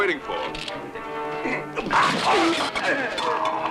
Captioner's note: grunting